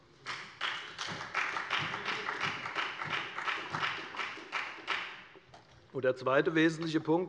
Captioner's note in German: Beifall bei der FDP und bei Abgeordneten der SPD